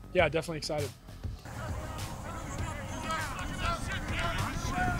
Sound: collective chatter

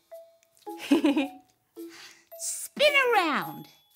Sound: chuckling

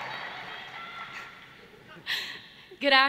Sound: laughter

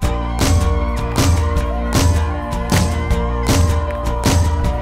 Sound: cheering

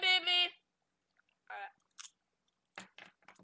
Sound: cronch

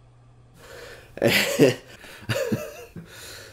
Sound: nervous laughter

